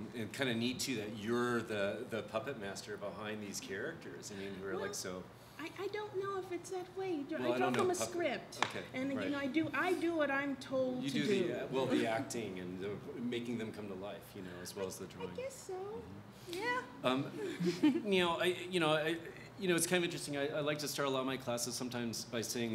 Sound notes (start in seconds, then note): 17.3 laughs